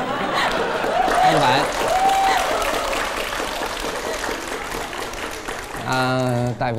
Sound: laughing

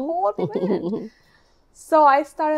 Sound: chuckles

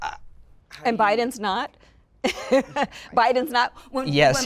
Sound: laughing

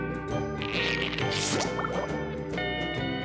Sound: squeezing

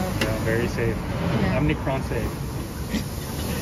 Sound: cough cough

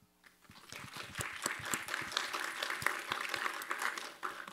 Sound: applause

